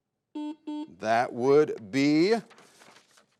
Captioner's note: buzzer beeps